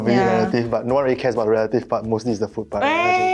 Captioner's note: oof